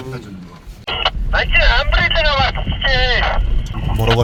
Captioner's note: radio coming through suddenly